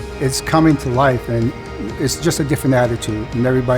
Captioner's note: none